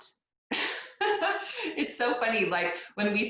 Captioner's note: laughs